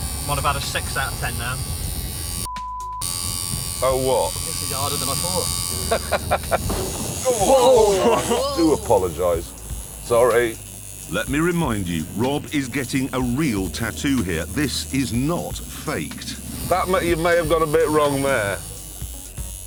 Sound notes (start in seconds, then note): 5.6 jeremy laughs